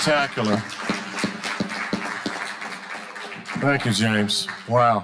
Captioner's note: audience applauding